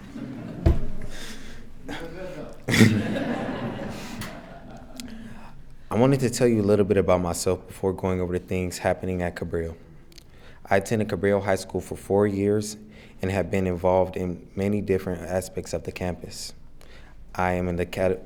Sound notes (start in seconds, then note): 0.0 attendees laughing; 1.8 everyone laughing